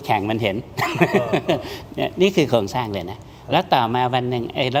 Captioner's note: laughter